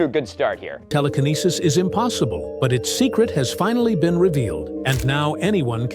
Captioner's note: TikTok AI narrator